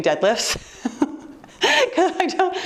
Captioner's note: laughing